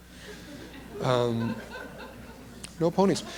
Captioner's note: laughter